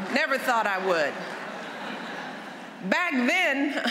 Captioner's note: laughter